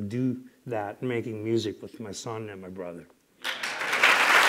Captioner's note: applause